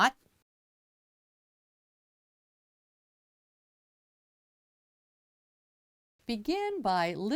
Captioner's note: no Sound Present